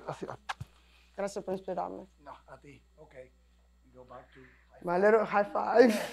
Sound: conversation in Spanish

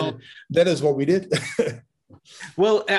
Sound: laughs

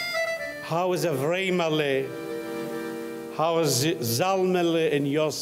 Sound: speaking in foreign language

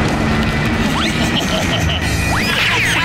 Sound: chuckling

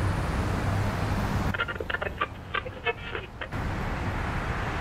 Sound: tráfico de ciudad; radio sintonizando; tráfico de ciudad

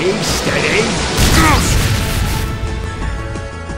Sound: bang!

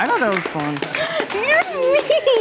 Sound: cast clapping

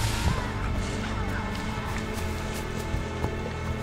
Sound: creature sounds grow distant

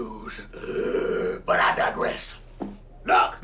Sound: growls

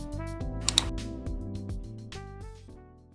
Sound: click

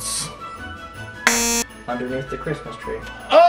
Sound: buzzer shrilling

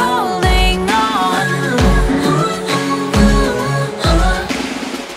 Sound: more Vocalizing

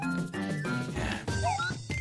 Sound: sigh

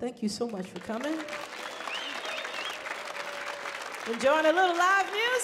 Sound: audience cheering

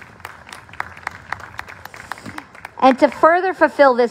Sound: applause

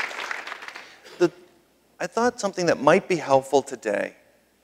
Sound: applause

